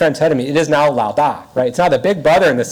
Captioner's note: speaks in foreign language